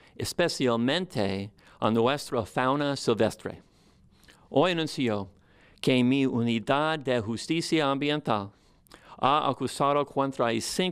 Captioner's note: speaking spanish